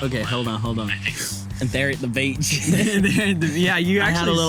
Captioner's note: in southern accent